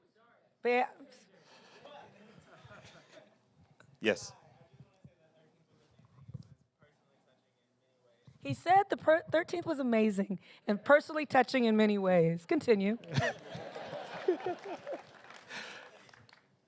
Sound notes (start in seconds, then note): 13.4 applause